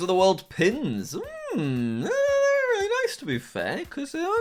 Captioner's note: squeals